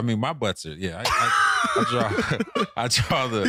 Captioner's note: laughing